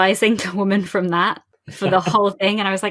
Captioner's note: laughs